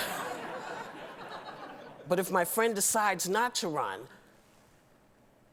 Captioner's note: laughter